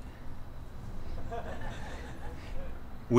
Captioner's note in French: Rires